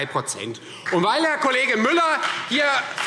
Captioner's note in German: Beifall Freie Demokraten und SPD